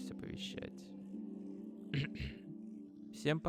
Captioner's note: hmm-hmm